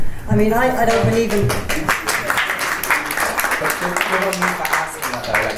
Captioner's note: panellists and audience applaud